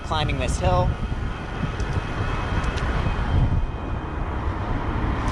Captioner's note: wind blowing